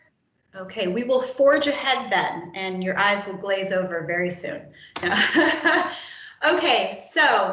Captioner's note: laughter